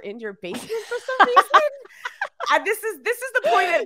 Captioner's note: laughing